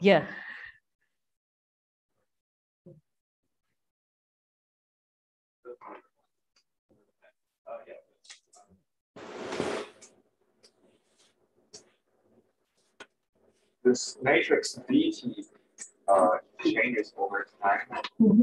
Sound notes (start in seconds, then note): 9.3 projector screen retracts